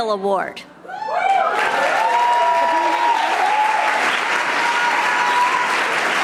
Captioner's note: audience cheering and applauding